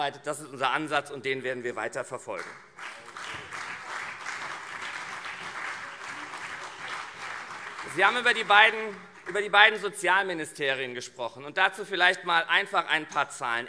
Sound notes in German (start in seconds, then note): 2.3 Beifall CDU und SPD